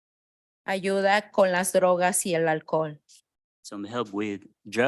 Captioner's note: speaking in Spanish